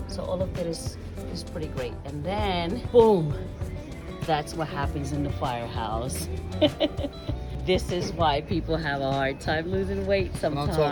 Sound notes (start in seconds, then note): 6.4 laughs